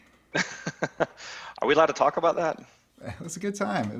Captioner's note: laughs